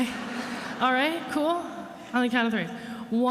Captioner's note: attendees laughing